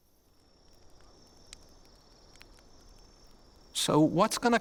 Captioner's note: insects chirping; cracking noises